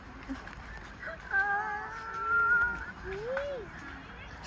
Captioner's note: girls moaning